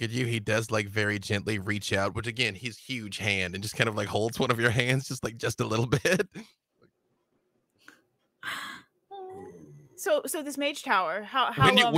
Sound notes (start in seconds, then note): 5.4 chuckles